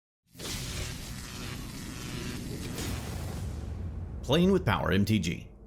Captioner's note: static lightly buzzing